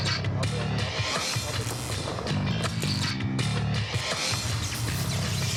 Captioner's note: electricity buzzing